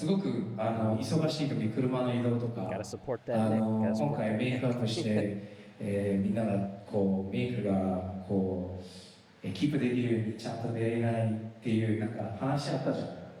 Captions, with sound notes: Gotta support that. Gotta support that. (speaking in foreign language)